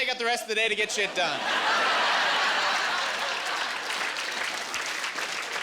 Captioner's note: laughing